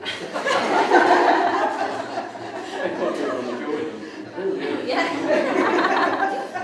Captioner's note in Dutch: veel gelach